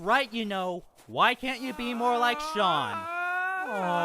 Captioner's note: aang screams